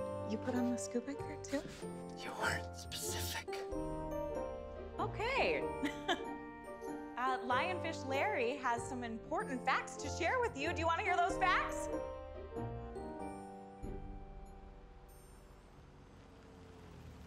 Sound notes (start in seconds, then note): 5.8 laughs